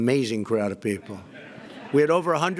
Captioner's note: laughter